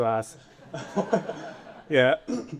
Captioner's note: audience laughing